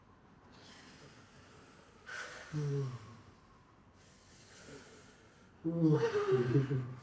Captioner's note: breathing deeply; laughing